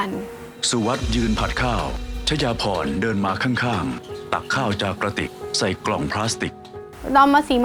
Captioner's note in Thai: เสียงผัดกับข้าว